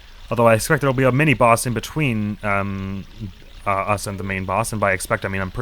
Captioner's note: none